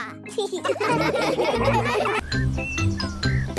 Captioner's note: laughing